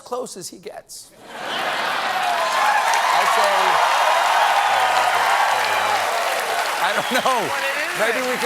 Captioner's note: laughter; cheers and applause